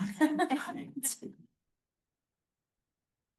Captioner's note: laughter